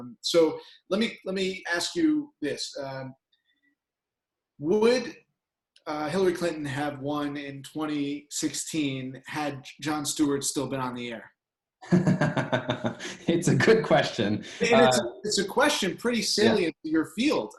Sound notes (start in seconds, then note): 11.8 laughing